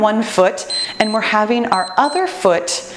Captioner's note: timer beeps